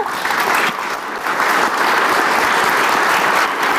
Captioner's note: audience applauds